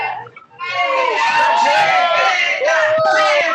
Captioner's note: all cheering